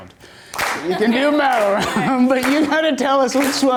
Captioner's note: laughs